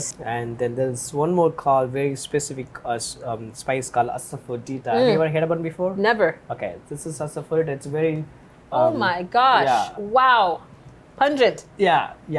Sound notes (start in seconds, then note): none